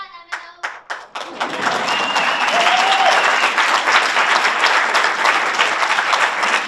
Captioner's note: audience applauds, whistles and cheers